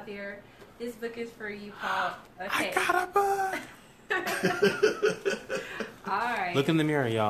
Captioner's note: laughter; gasps